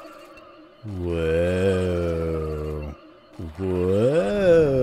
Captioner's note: dancing fungi noises